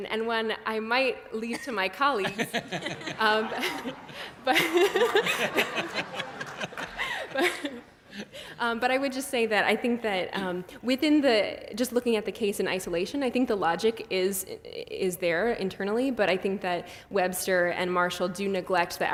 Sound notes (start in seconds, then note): 2.2 laughs